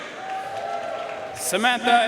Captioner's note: audience cheering and applauding